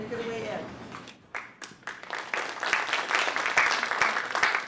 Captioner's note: applause